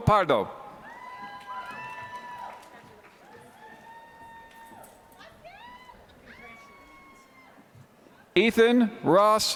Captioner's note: applause